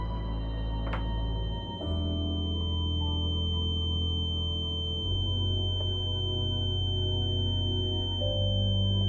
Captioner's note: high-pitched ring